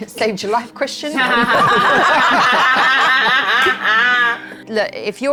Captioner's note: everyone laughing